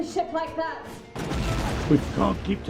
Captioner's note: explosion rumbles